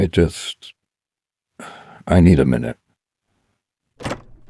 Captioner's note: sighs